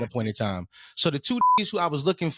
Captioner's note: beep